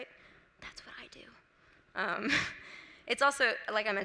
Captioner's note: whispers